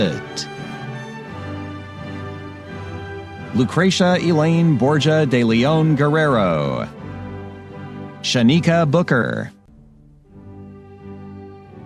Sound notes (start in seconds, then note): none